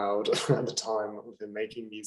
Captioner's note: laughing